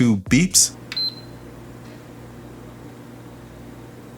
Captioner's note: PS5 beeps